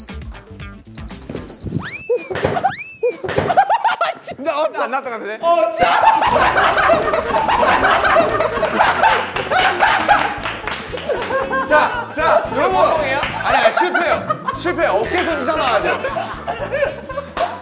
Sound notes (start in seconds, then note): 5.7 laughing hard; 11.8 disappears from laughing; 14.9 everyone's busy laughing